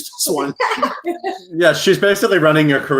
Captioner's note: all laugh